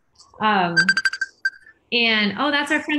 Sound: phone rings

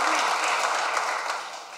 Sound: applause

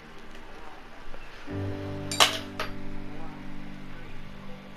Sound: sound of my cat knocking stuff off the desk

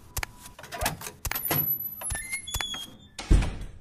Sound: footsteps; door opening; door closing

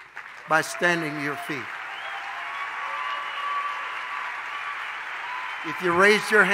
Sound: congregation cheers

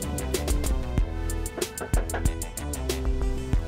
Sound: door knocking

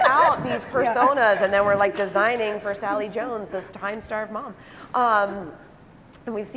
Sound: laughing

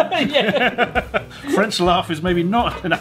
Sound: both chuckle

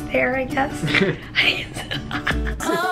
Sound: chuckling

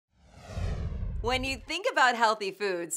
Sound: whoosh

